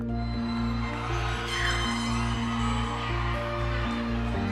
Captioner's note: people cheering